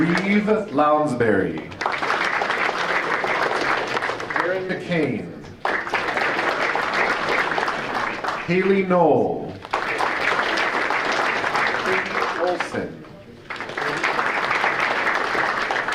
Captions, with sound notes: Reeve Lounsbury. (audience applauding) Erin McCane. (audience applauding) Haley Noll. (audience applauding) Katie Olson. (audience applauding)